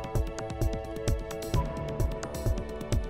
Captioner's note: none